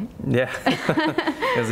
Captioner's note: laughing